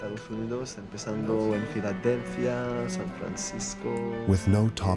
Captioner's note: speaking Spanish